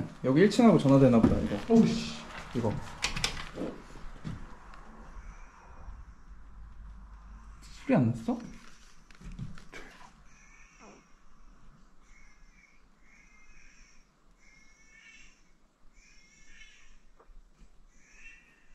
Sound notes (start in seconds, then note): 10.2 suddenly the sound of a baby crying